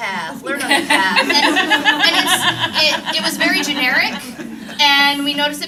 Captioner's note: laughter